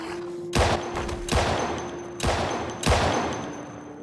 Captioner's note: gunshots